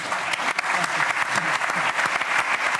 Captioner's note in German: Tosender Applaus